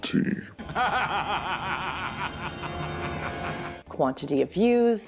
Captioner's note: laughter